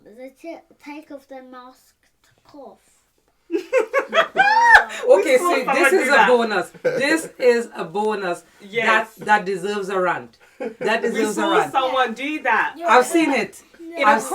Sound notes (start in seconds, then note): 3.5 laughs